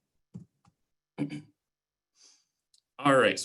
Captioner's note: clearing throat